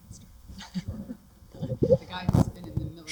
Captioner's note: laughter